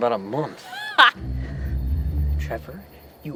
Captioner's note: laughing